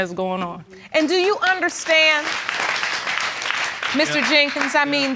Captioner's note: applause